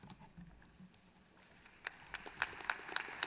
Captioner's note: applause